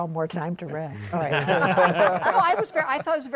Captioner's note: laughter